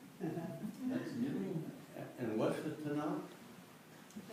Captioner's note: laughter